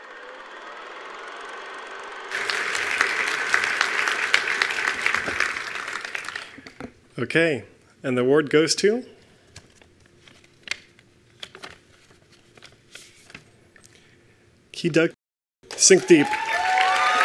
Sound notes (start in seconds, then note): 2.3 attendees applauding